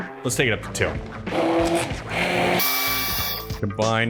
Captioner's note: high pitched whirring